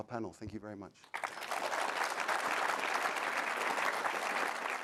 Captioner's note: audience applauding